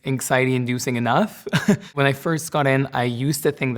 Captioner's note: chuckles